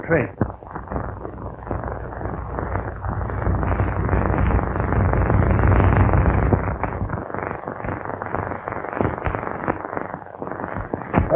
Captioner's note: pounding